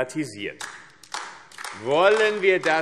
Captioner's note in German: Beifall AfD